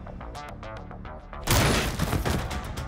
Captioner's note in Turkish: Silah sesi